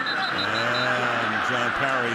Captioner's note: whistle